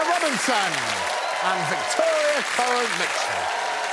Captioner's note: applause